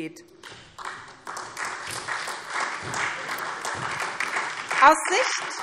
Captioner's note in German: Beifall SPD